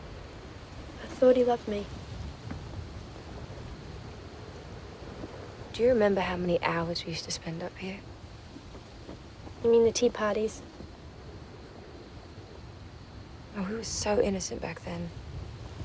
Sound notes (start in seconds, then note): none